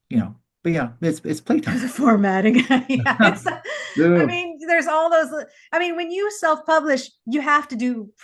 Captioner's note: laughs